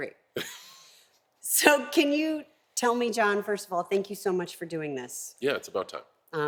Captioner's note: laugh